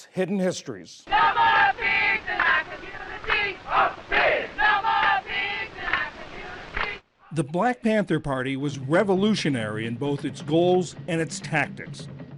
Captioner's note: voice-over